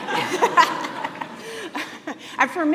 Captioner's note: audience laughing